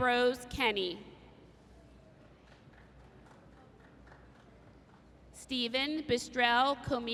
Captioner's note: applause